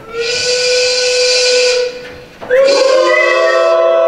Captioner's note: factory whistle; mimicking factory whistle